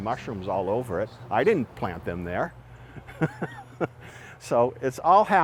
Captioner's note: chuckling